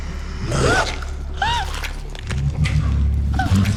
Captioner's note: gasps